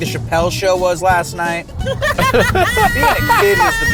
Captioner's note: laugh